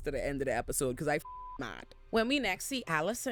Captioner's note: beep